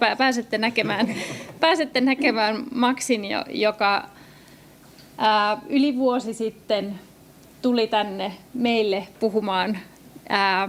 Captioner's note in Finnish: naurua